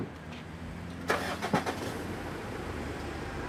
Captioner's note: engine starts